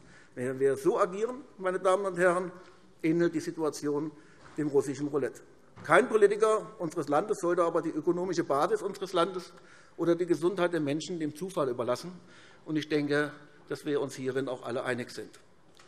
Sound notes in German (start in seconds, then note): none